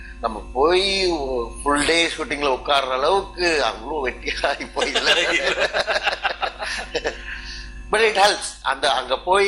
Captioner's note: laughs